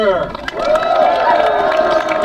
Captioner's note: crowd; crowd applauding